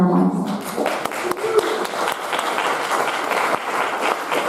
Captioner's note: audience applauding